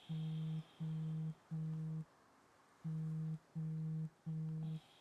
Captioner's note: Tara's watch vibrating